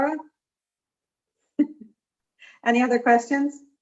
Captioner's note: chuckling